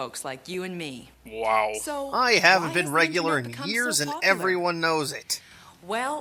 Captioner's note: deadpan